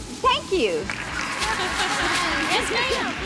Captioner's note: cheering and applause